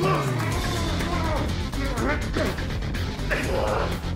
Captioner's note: sumos grunting